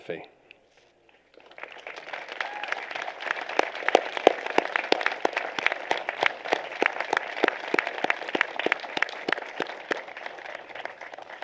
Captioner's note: applause